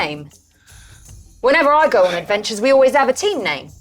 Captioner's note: sighs